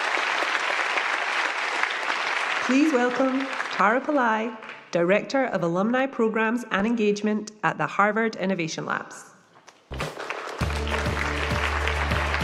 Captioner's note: applause